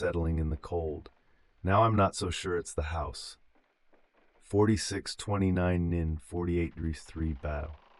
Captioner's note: exhale